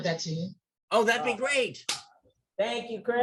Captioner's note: claps hands